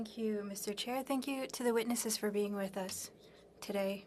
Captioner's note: speaking French